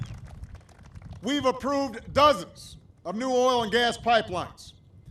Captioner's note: applause